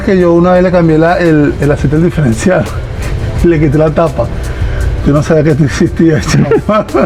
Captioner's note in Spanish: risas